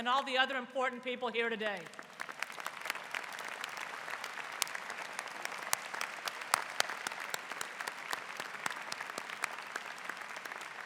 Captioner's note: applause